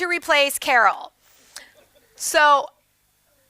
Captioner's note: audience laughs